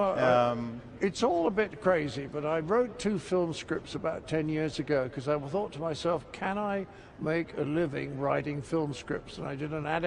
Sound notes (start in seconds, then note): none